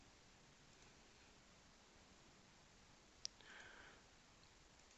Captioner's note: mouse clicking